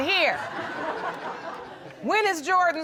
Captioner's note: audience laughing